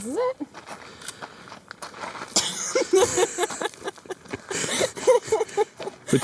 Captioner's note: laughing